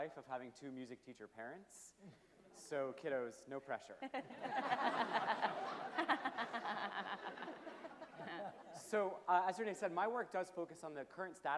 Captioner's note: laughter from panel members and audience